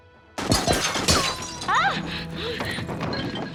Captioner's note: gunshots